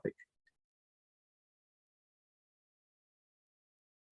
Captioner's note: silence